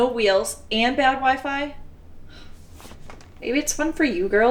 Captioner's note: scoffs